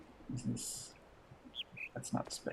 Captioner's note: bird chirps high-low